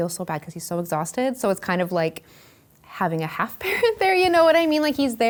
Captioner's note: laughing